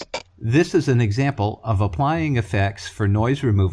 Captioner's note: voiceover